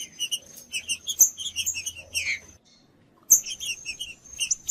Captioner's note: trinca ferro cantando